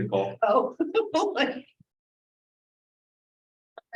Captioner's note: laughs